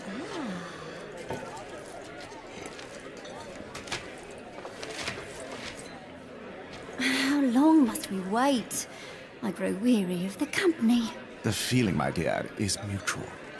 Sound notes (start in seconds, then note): 7.9 sigh